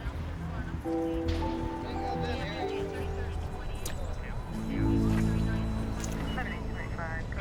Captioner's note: POLICE TALKING</i> <i> OVER RADIOS